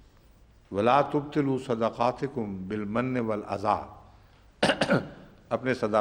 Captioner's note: Arabic